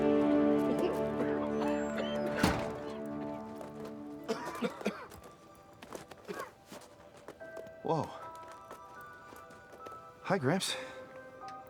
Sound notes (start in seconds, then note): 2.0 everyone coughing; 11.5 gentle music